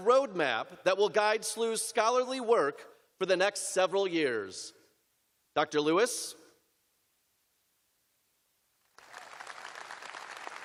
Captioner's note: applause